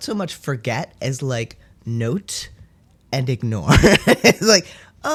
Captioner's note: laugh